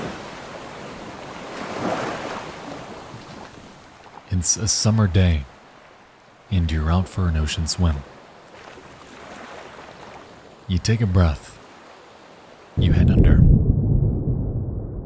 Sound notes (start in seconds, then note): 2.0 waves lapping; 8.9 water lapping